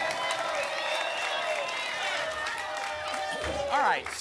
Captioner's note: applause and cheering cont